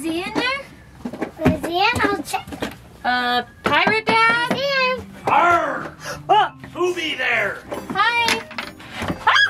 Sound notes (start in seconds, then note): 6.4 yells